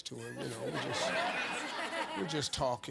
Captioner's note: audience laughs